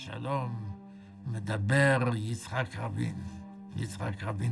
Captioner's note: speaking foreign language